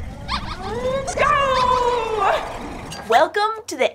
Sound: whooshing Time Travel Noises

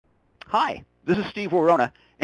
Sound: voiceover

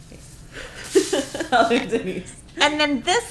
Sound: laughing

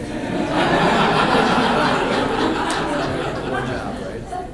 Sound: audience laughs

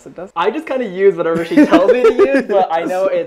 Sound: laughs

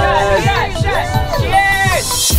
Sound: cheering

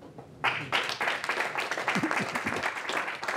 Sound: applause

